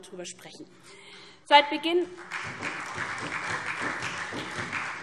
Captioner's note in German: Beifall SPD, Freie Demokraten und DIE LINKE